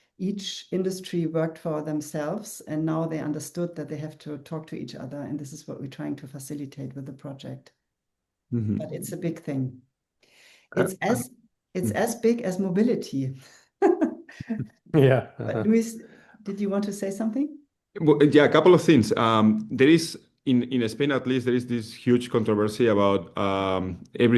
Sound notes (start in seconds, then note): 15.0 chuckles